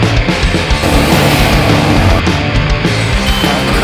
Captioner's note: upbeat rock music continues; metal grinding softly; engine revving loudly; upbeat rock music continues